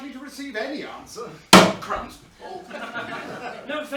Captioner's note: thump